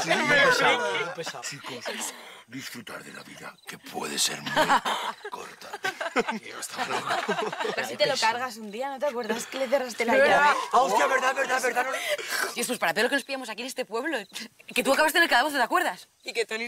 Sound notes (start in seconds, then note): 1.4 deep voice